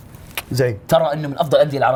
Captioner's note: kiss